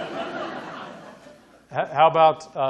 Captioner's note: audience laughing